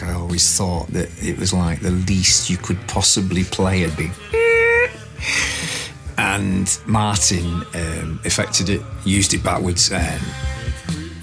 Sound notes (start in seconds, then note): 4.4 squeaks